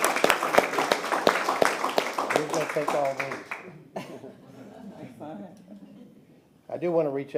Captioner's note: applause